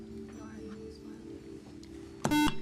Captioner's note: beep